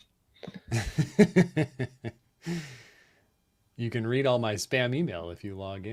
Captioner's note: laughs